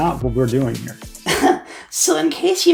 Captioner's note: scoff